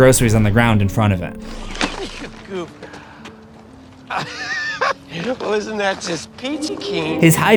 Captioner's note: laughs